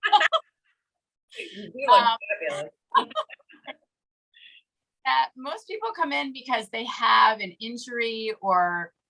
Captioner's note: both laugh